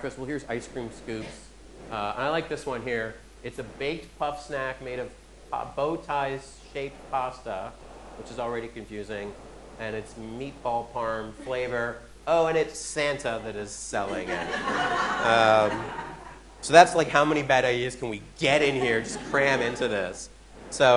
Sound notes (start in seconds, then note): 14.1 audience laughing